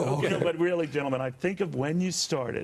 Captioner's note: laughter